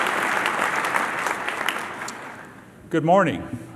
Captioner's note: applause